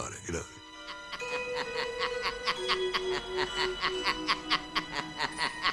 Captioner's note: laughter on recording